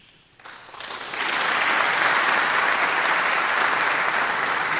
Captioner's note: audience applauding